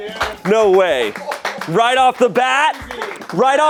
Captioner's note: crew clapping